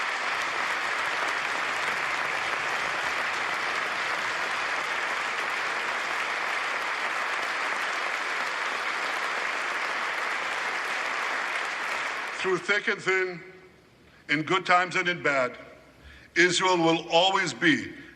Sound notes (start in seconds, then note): 3.9 applause